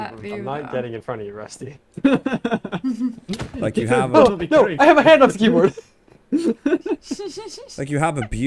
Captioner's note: laughs; being punched